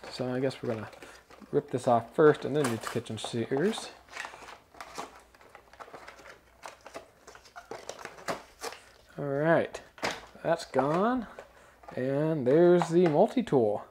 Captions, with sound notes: So I guess we're gonna rip this off first and then use the kitchen shears. (package rustling) All right that's gone and there's the multi-tool.